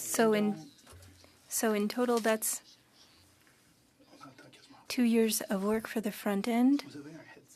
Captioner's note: speaking French